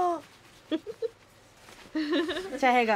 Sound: woman laughs

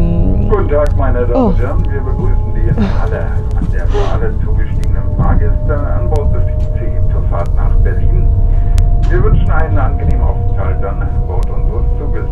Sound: speaking in German

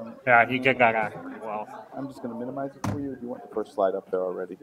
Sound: murmuring

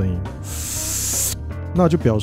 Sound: sucking noodles

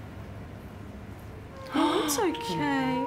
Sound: cat meows

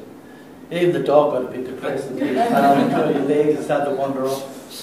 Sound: laughter

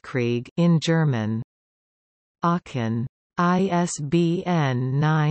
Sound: in German

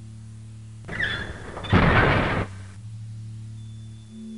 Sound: heavy doors creak and protest

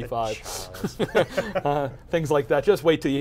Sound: laughing

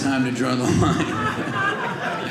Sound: audience laughing

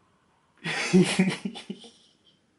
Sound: laugh

